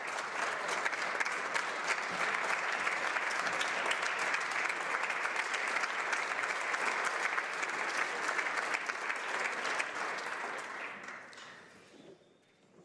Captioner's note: some Applause